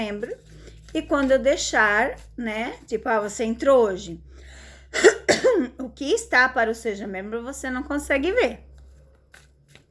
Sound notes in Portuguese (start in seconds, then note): 4.5 limpando a garganta; 4.9 tosse